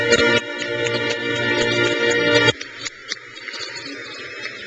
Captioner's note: crowd cheers